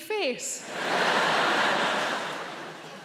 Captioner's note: audience laughing